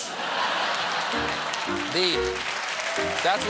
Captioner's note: cheers and applause